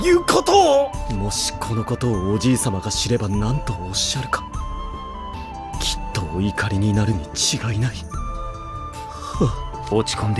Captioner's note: sigh